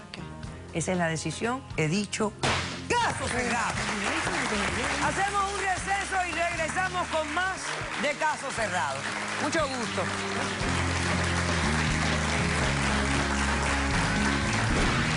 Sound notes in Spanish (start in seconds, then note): 11.7 Aplausos